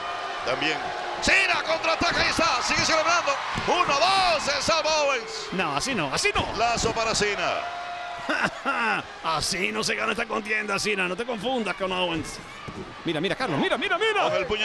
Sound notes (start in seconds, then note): 8.2 laugh